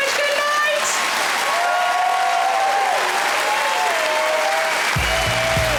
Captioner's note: audience applauds; audience cheering; upbeat music; audience applauds